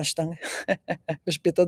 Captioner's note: laughter